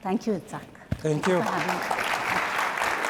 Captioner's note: applause